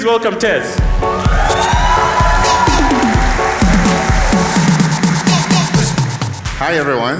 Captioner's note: applause